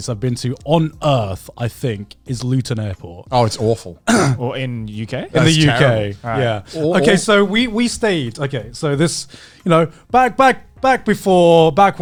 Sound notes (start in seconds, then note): 4.0 clearing voice